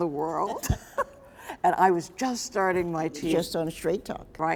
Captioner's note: Nikki laughs